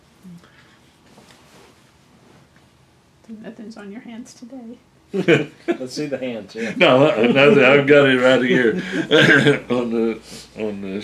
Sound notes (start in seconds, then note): 5.1 laughter